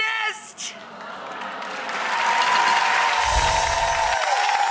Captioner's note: audience cheers